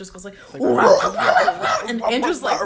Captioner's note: both imitate screamo